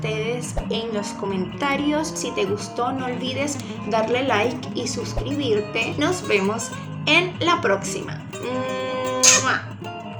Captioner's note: kiss sound